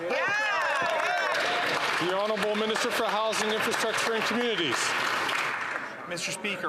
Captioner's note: some Applause